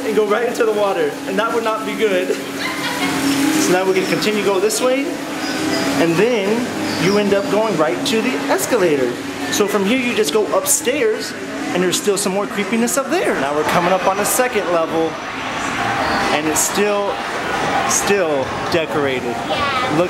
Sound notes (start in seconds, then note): 2.3 laughs